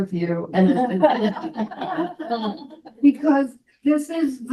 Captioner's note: all laugh